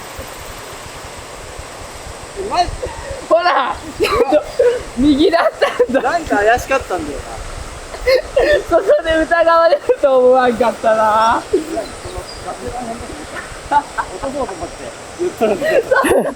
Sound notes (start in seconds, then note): 7.5 laughs